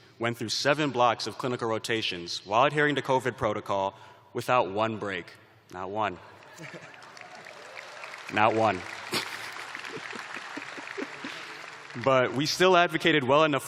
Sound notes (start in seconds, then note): 3.9 applause; 5.6 chuckling